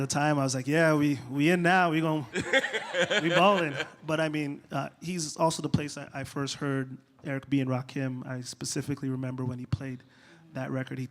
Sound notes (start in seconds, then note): 2.3 laughter